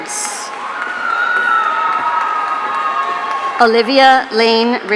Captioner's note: audience cheering